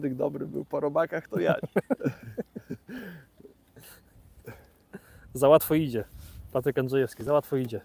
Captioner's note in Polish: śmiech